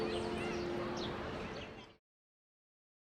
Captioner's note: birds chirping